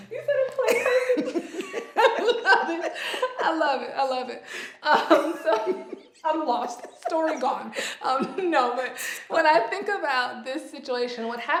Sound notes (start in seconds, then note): 0.6 laughter